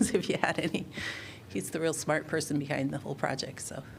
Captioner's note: laughter